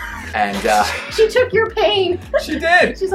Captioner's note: laughs